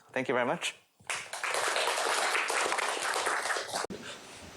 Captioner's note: applause